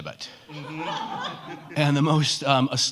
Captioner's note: all laugh